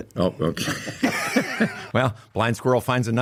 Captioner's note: everyone laughs